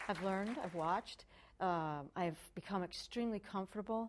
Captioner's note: applause